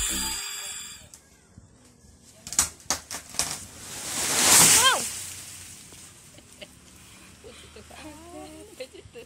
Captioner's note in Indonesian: sound of a fallen tree